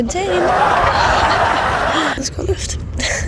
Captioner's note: laughing track